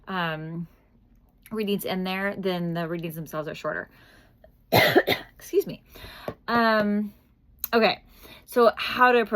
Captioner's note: coughs